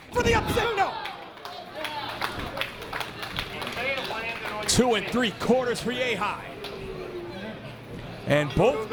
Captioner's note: applause